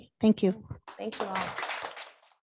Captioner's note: attendees applauding